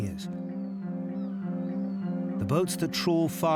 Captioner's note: birds squealing; alarm hooting